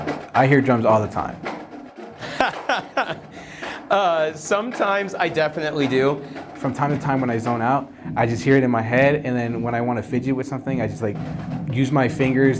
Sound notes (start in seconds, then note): 2.2 laughter